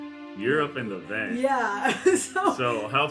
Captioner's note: laughs